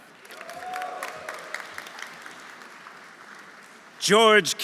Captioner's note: audience applauding; audience cheering